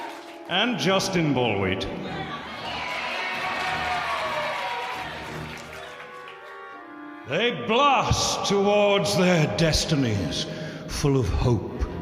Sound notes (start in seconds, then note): 0.0 audience cheering; 2.1 audience cheering